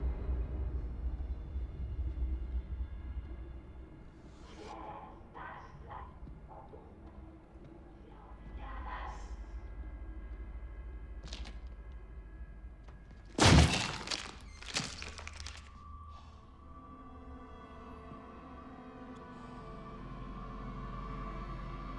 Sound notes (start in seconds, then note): 13.2 wood cracking; 13.4 door thuds; 19.3 eerie music